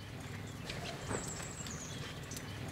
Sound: birds chirping

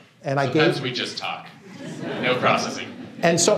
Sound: laughter

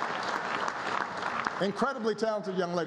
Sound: applause

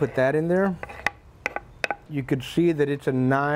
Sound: knife rasping

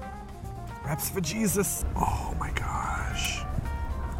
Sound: whispers

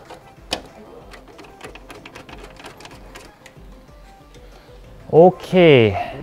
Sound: peasant screwdriver sounds

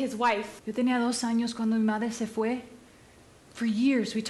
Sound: speaking Spanish

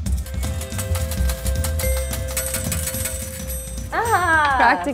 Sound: coins clinking; upbeat music

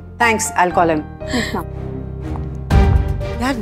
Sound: Ananya inhales

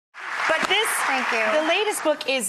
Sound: applause

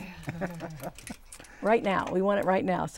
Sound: laughing

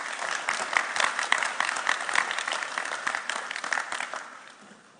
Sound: audience applauding

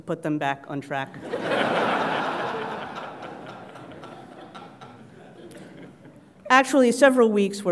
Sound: laugh

